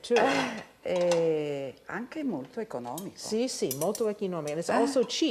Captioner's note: speaking Italian